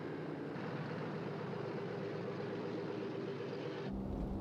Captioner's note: engine rumbling